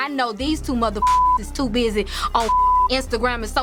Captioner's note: beep